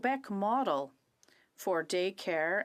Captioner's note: speaking French